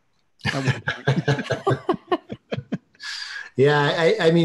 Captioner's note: laughing